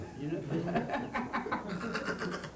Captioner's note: group laughter